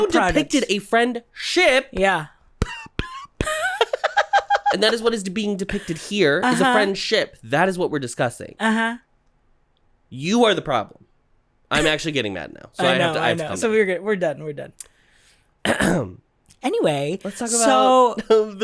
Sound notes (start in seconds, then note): 3.3 giggles